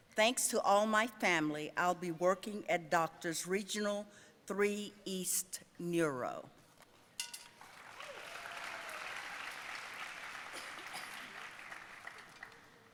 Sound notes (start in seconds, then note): 7.6 audience cheering and applauding